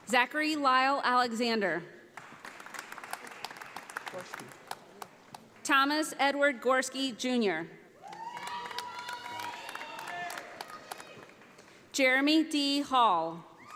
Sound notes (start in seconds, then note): 2.2 audience applauding; 8.0 audience applauding